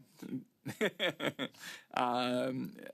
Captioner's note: speaking French